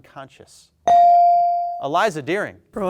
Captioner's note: bell dings